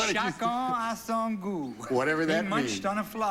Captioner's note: speaking foreign language